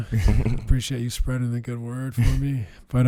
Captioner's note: laughs